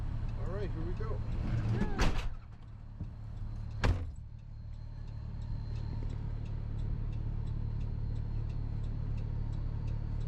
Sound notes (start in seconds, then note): 3.8 front passenger door shuts